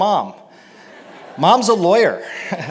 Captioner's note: laughter